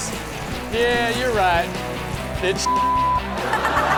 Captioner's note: beep; all laugh